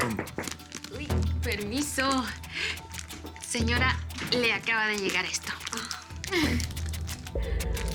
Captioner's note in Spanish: Toques en la puerta